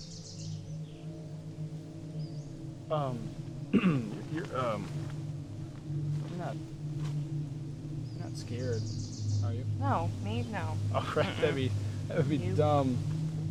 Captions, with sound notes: Um... (clears throat) You're... You're not scared, are you? - No. Me? No. - Right, that'd be dumb.